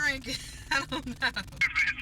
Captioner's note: laughter